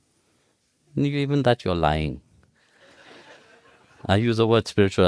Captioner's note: audience laughs